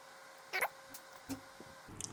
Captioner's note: chipmunk sound